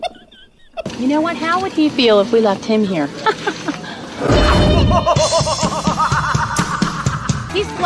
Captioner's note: evil laugh